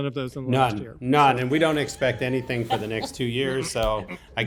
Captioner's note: laughs